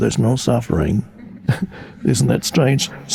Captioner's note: audience chuckling